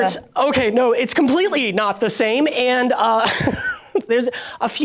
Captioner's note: laughs